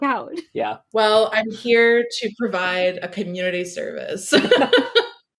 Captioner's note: laughs